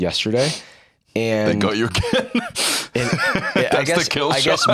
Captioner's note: laughs